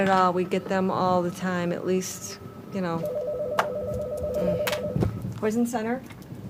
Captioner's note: phone rings